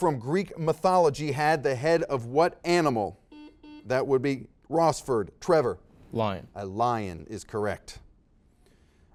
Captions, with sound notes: The Chimera from Greek mythology had the head of what animal? (series of beeps) - That would be Rossford. Trevor. - Lion. - A lion is correct.